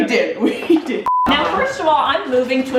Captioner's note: beeping